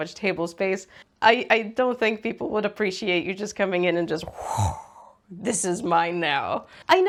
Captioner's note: gremliny whoosh